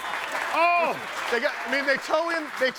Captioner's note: audience applauding